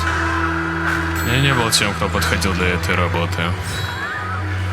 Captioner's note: screams of employees and breached abnormalities